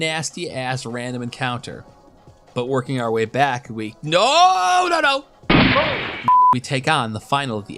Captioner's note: gunshot